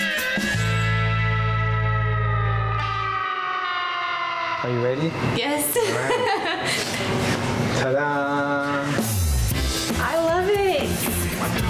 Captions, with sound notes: - Are you ready? - Yes (laughs). - Ta da. - I love it.